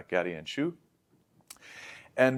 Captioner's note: lips smack; inhales